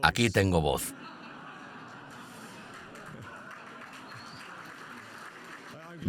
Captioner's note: audience laughs and applauds